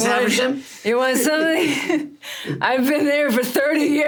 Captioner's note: Sarah and Richard laughing; laughs